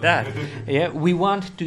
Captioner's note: laughs